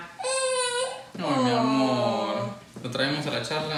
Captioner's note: baby crying